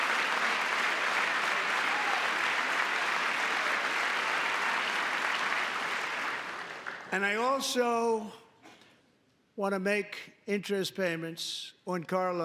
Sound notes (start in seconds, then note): 2.9 applause; 2.9 cheering